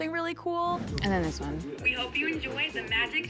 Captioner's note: on phone